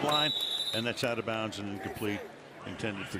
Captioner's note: whistle